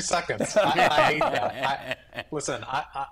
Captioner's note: all laugh